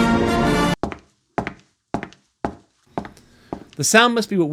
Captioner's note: footsteps